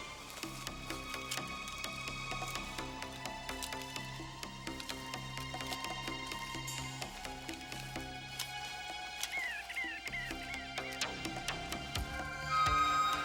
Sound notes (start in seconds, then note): 9.7 birds chirping